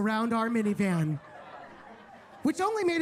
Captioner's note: attendees laughing